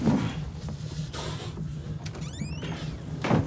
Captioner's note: Jim panting; door creaking; door rattling